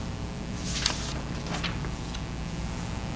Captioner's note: papers rustling